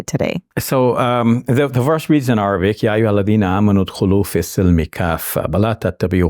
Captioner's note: speaking in Arabic